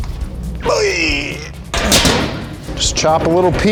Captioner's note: metal clanging; groans